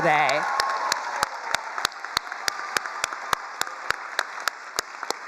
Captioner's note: all cheering and applauding